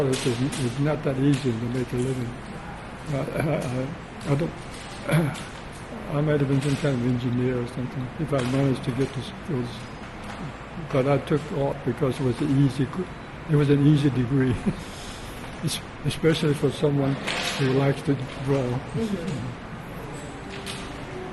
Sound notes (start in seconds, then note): 18.0 laughs